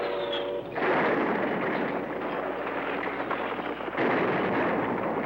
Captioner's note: bombs exploding